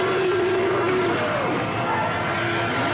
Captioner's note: roaring